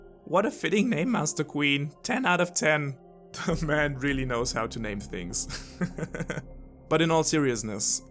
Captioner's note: laugh